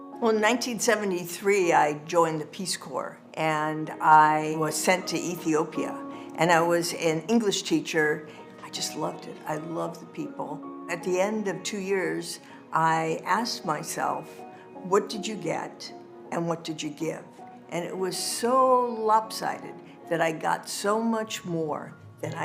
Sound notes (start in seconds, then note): none